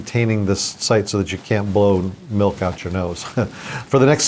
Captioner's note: laughs